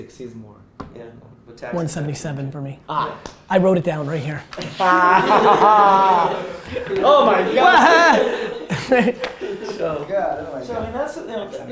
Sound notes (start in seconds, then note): 4.6 group laughing; 7.4 yells; 8.4 laughing